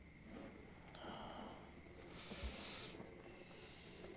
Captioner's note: scraping